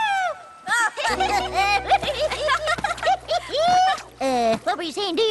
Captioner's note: laughing